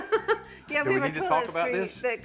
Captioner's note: laughing